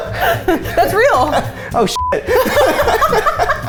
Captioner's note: beep; laughing